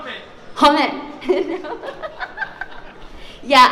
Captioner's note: laughs